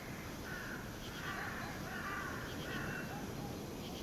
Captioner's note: crow cawing